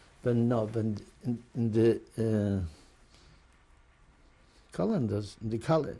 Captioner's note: pauses for 3 seconds